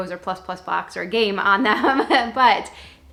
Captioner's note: laughs